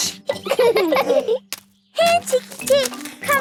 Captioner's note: laughing